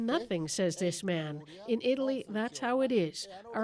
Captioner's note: speaking foreign language